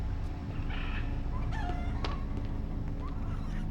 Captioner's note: chirruping and squawking